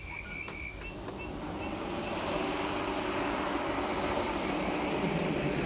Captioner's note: car motor rumbling